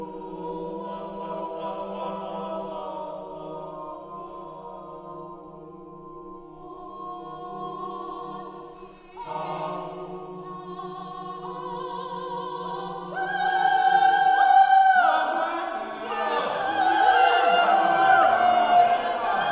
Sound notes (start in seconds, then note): 0.9 ensemble, together - gradually getting softer; 6.6 soprano Solo, with longing; 9.4 suddenly loud; 10.5 soprano Solo